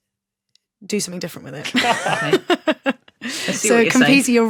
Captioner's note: laugh